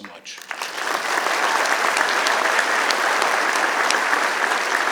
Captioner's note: applause